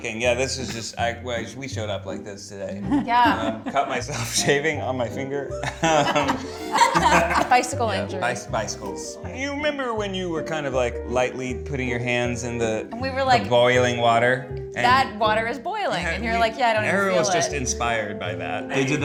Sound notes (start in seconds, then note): 5.6 laughter